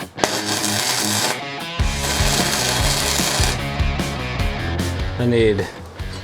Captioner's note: metals clanking; upbeat music; crackling; upbeat music